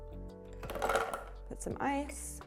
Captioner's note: ice clattering